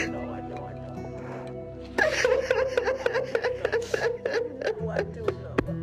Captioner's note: crying continues